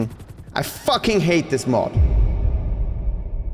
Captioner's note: voice echoes